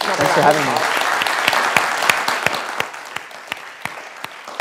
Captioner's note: class applauding